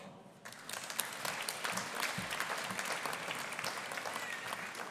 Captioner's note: audience applauding